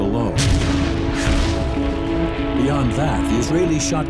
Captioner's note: explosions booming